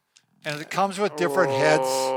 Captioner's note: groans